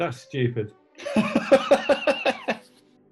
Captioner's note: laughter